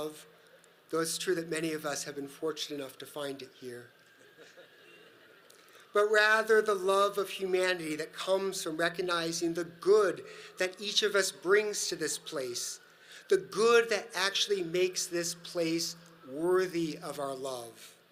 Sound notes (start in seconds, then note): 3.9 audience laughs